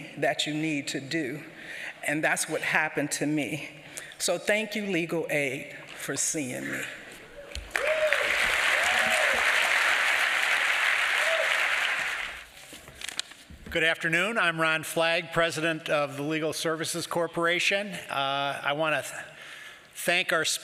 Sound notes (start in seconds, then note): 7.6 applause